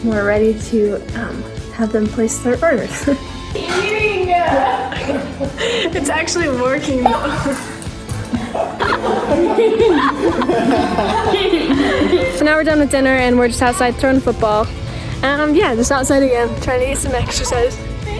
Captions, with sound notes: We're ready to have them place their orders. (laughs) (group laughs) It's actually working. (group laughs) So now we're done with dinner and we're just outside throwing a football. And yeah, just outside again, trying to get some exercise.